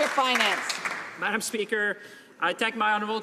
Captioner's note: some Applause